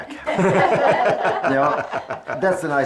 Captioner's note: laughs